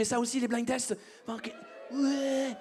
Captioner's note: audience cheers